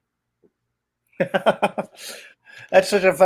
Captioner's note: laughs